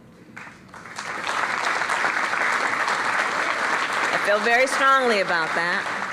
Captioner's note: applause